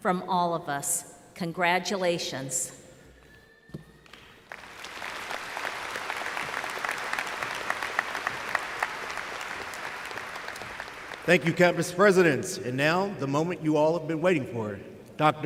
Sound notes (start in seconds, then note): 4.0 applause